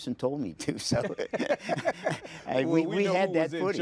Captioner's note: chuckling